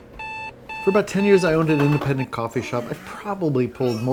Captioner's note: beeping